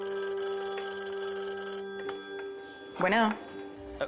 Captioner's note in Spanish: Suena el teléfono